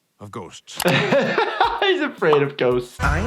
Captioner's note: he laughs